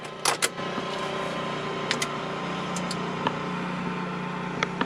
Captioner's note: engine humming; knobs clicking